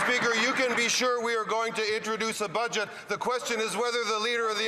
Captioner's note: some Applause